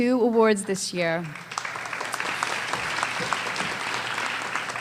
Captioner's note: applause